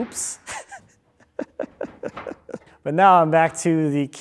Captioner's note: laughing